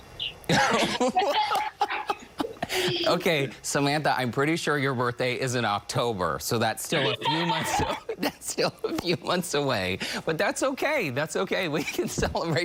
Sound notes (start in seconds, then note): 7.5 laughter